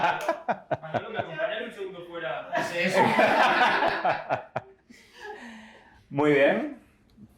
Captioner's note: laughter